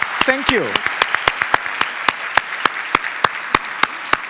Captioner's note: applause